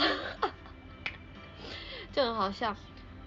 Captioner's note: laughs